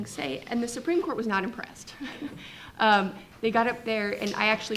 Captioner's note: chuckles